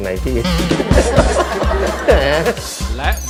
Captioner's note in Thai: หัวเราะ